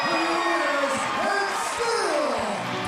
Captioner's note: bell ringing